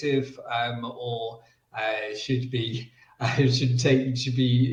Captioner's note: laughs